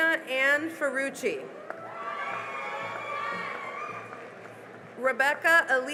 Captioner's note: cheering and applause